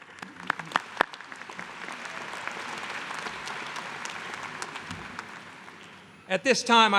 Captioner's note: applause